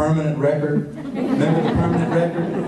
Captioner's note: laughter